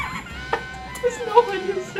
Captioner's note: laughing